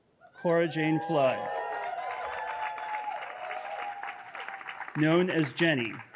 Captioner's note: audience cheering